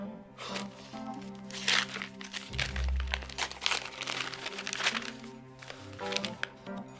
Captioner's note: bright groovy music; envelope tearing; bright groovy music; letter shuffling